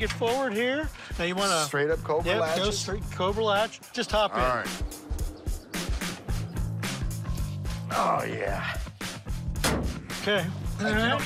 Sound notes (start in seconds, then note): 5.5 upbeat rock music playing; 9.6 bang